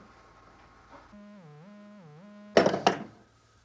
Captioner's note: line buzzing